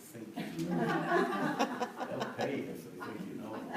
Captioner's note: laughter